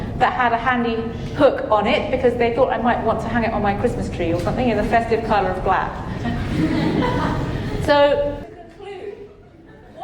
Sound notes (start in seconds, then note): 6.2 audience chuckling